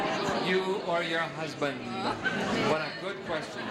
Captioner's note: audience laughing